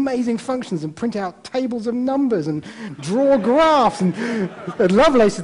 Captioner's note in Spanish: risas